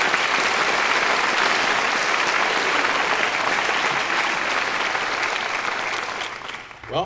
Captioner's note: applause